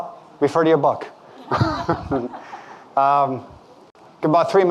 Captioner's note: audience laughing